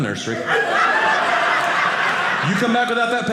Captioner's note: audience laughing